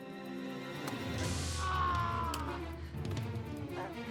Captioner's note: screams; dramatic music